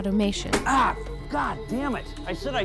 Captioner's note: grunting